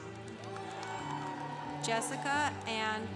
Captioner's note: congregation applauding